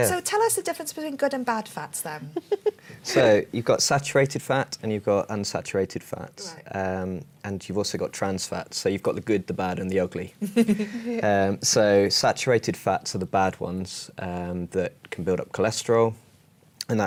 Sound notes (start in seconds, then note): 2.3 laughs; 10.4 laughter